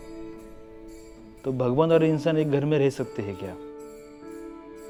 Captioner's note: bell chimes; in Hindi